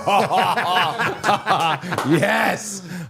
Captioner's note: both laughing